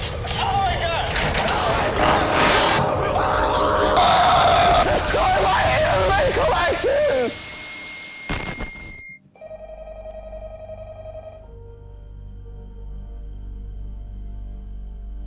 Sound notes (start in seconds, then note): 2.0 spooky electrical animatronic sounds; 3.9 terrifying animatronic sounds; 3.9 some screaming